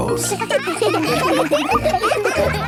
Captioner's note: children laughing